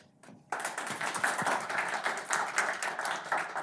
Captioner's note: applause